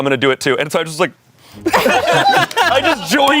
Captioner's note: everyone laughs